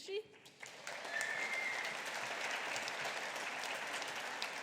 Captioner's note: audience applauding